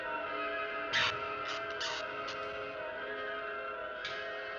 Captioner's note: bat screeching